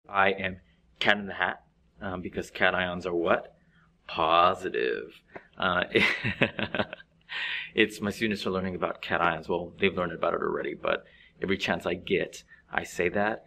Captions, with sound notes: - I am Cat In The Hat, because cations are what? Paws-i-tive. (laughs) My students are learning about cations. Well, they've learned about it already, but every chance I get, I say that.